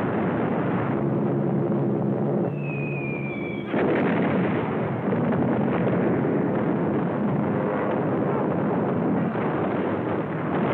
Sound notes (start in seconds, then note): 3.4 explosions